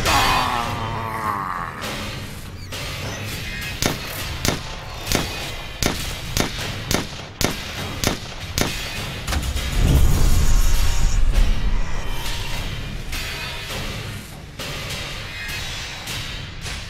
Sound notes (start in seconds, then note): 0.0 growling; 3.0 gunshots